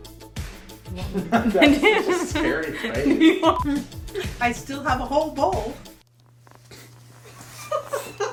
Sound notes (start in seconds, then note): 0.9 laughing; 3.5 beeping